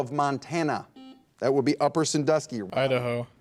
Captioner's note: buzzer dings